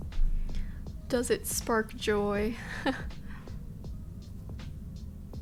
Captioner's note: she giggles